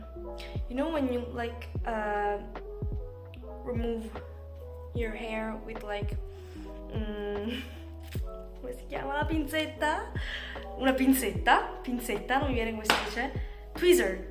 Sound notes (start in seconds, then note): 7.9 in Italian; 12.9 in English